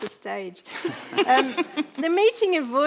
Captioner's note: chortles